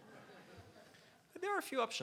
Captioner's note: laughs